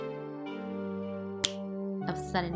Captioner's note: fingers snap